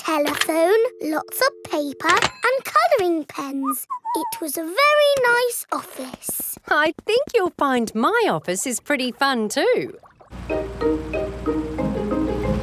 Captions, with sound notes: There was a telephone, lots of paper and coloring pens. -(WHISTLES) -It was a very nice office. I think you'll find my office is pretty fun too!